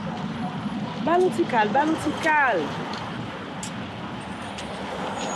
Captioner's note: speaking in Creole